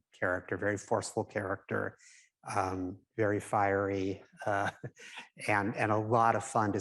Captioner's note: chuckles